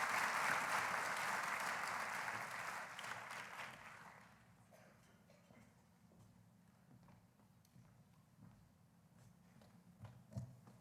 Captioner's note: applause